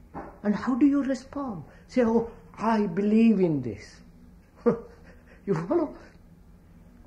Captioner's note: laughs